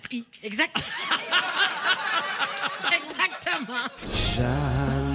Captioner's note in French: rires